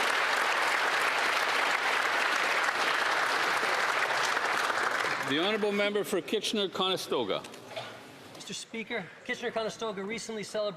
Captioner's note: applause